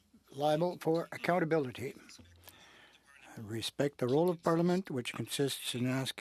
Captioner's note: speaking French